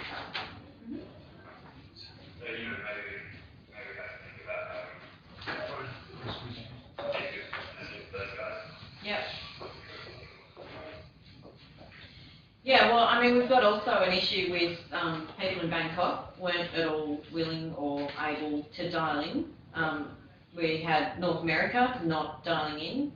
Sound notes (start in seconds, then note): 0.2 door opens; 6.0 whispering off-screen